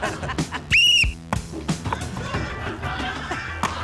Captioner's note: laughter; blows whistle